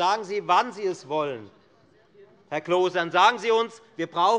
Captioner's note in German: none